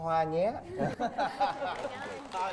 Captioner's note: laughing